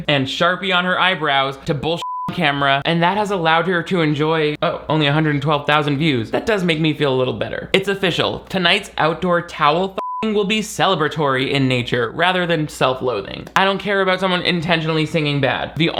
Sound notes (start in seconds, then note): 2.0 beep; 10.0 beep